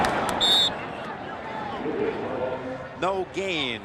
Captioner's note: whistle blows